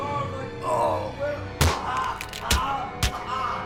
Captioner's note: Abby punches; intruder yells